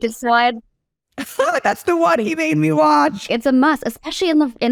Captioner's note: laugh